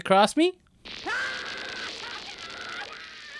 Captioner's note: screaming